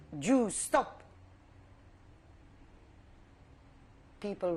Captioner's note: pauses for 3 seconds